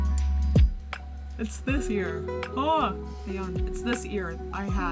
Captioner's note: yawns